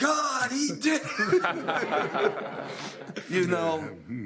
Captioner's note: audience laughing